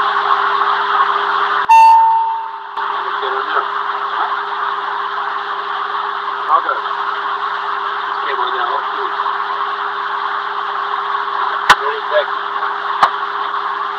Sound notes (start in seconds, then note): 1.7 intercom chime